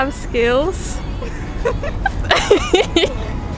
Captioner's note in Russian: смеется